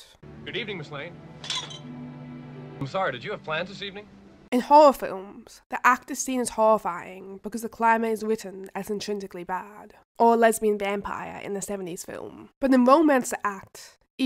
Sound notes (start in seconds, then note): 1.4 wine glass clatters